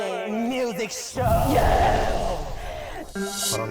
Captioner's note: burning-it-up sound effect